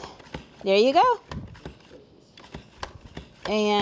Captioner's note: appliance thunking